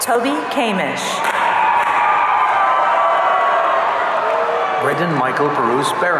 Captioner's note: audience cheering